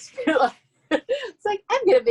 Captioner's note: laughing